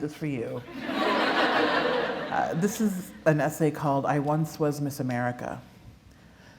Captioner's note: laughter